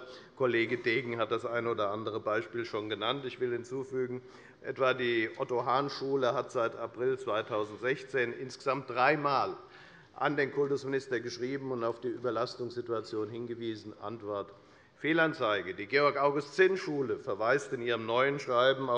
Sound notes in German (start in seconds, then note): none